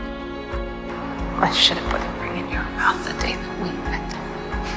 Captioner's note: voiceover